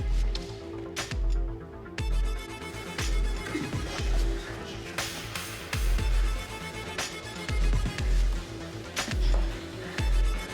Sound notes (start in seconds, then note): 4.5 footsteps thudding